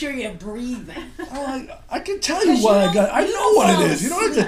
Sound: voiceover

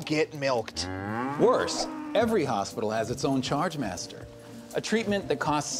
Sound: cow mooing

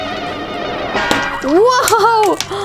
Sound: popping noise

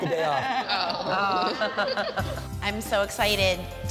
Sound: laughter

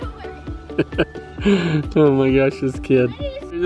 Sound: laughing

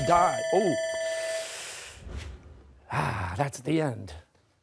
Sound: bell rings; sighs

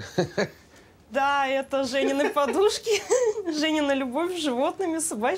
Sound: laughing; speaking in foreign language

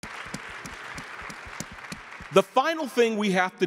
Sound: audience clapping

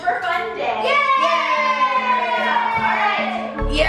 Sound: kids cheering

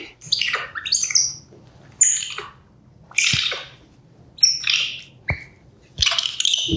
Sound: monkey squeaks loudly

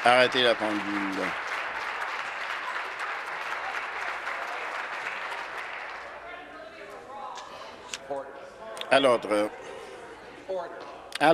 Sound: applause

